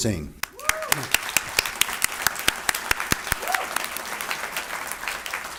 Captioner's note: audience applauds